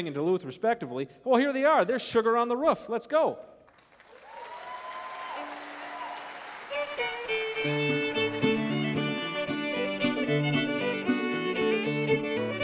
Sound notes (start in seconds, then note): 3.6 applause